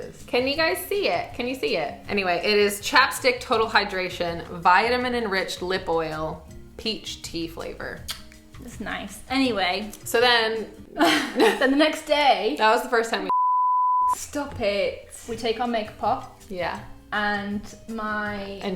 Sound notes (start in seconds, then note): 8.0 lips smacking; 11.0 both laughing; 13.3 beep